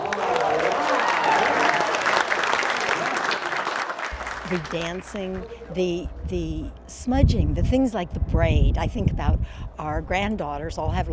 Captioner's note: applause